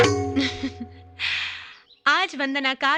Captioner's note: chuckling